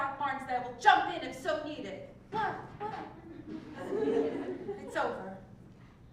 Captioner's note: laugh